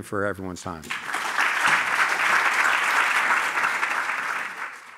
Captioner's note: applause